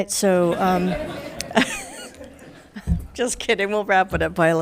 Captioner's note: all laughing